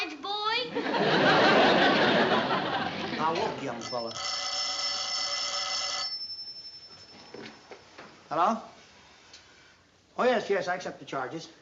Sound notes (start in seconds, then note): 0.7 laughter; 3.8 telephone ringing